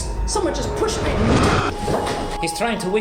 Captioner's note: Evan whooshes; body thuds